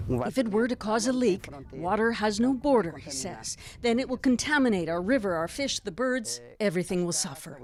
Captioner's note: speaking alternate language